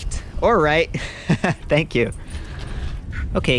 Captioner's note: laughing